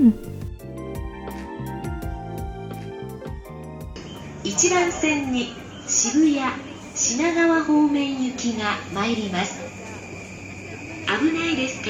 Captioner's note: announcements